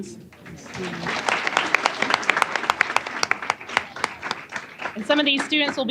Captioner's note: applause